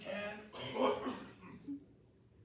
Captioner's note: coughs